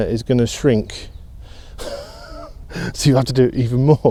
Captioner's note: laughs